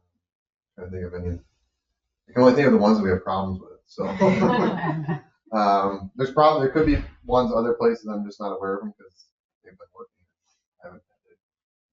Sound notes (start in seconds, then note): 4.0 members laugh